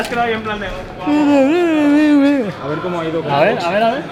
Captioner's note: silly noises